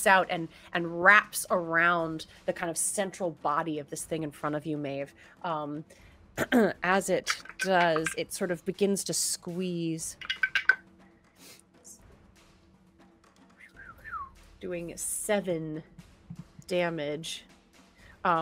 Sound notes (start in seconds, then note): 6.5 clears throat; 7.2 dice clatter; 10.2 dice clatter